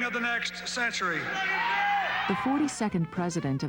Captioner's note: cheering